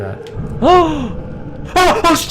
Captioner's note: gasps